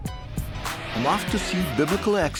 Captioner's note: car engine roaring